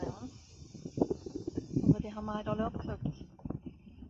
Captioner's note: wind